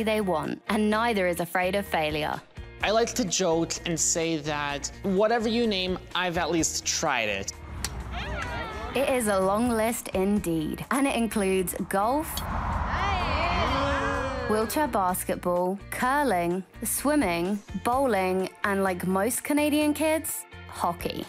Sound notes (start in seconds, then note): 12.2 golf club striking ball